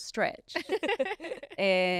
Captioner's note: both laughing